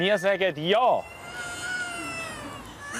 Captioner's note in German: Brüllend